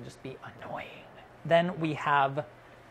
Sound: whispers

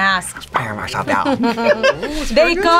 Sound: both laugh

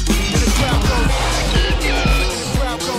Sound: crowd

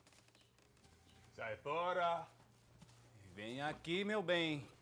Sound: speaking in Spanish

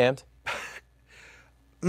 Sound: scoffs

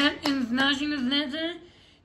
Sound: claps

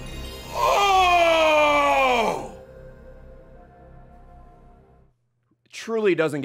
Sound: Playstation start-up noise; moans

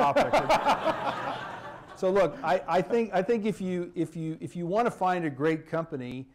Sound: laughter

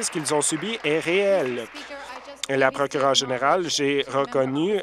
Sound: some Applause

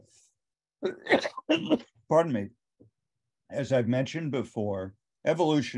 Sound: coughs

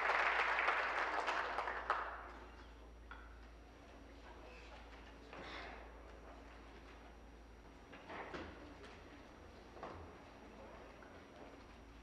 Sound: applause

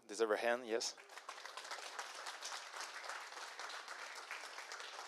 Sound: applause

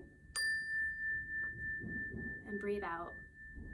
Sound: calming chime sound

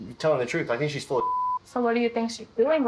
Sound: beep

